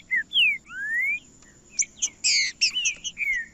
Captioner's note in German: trinca ferro cantando